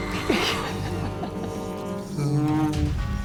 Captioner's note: Eve and Max laugh